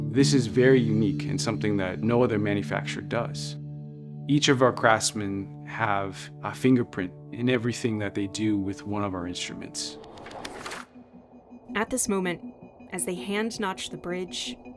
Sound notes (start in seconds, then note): 10.4 air whooshing; 11.2 light music